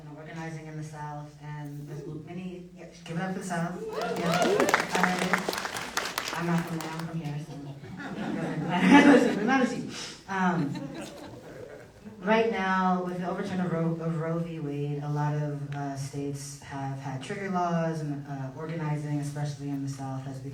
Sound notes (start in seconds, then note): 3.8 applause